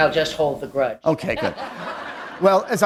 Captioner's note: laughter